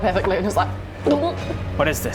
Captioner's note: gulp!